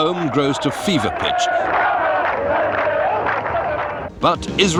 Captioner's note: crowd chants